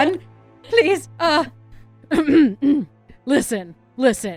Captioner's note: clears throat